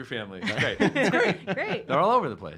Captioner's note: laughing